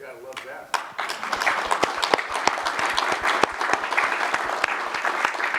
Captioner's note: applause